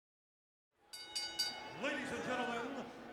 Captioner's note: bell dings